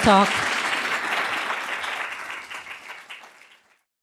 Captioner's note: applause